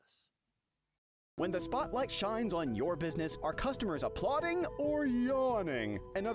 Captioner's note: voiceover